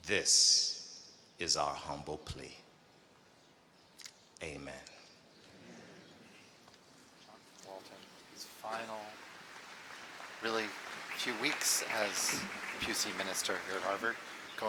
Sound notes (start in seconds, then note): 6.5 applause